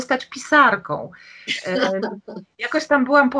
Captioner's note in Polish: śmiech